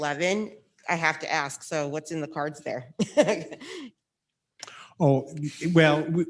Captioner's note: laughs